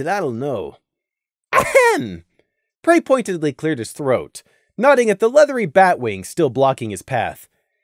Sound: ehem

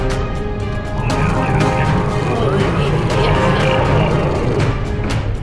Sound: Dark and Jones grunt and moan as they are erased

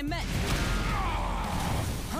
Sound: crashing; Drago grunts

